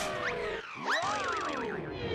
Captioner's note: screams